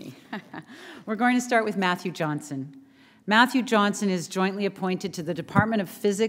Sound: chuckle

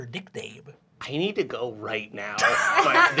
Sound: laughter

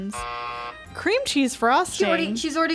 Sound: buzzer rings

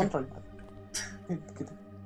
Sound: chuckles

